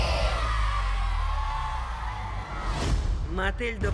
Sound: children cheering

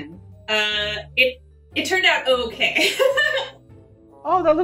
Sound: laughing

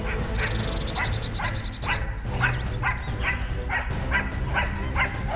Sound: dynamic music; dog barking

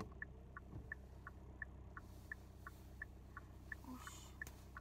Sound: phew

